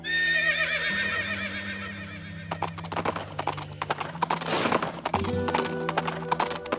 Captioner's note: western music; horse whinnies; horse gallops